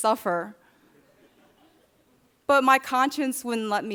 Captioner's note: audience chuckling